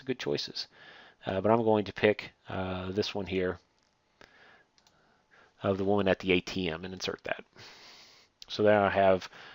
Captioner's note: click